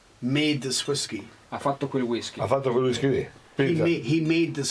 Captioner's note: speaking Italian; speaking Italian